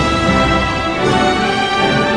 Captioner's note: bell